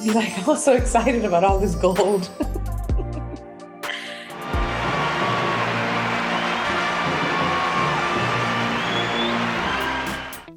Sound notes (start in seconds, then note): 2.8 laughing; 4.4 audience cheering